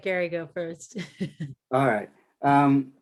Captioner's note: laughs